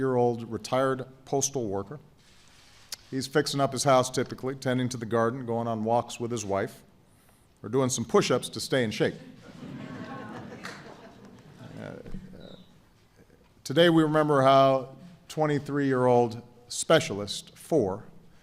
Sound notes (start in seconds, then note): 9.1 laughter